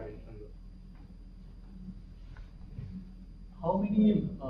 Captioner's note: pause